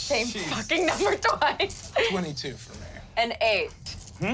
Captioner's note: none